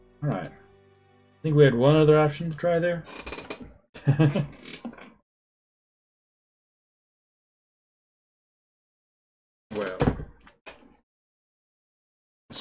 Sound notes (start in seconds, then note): 4.0 chuckles